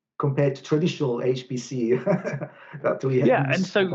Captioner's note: laughs